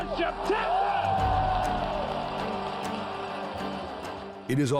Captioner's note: cheering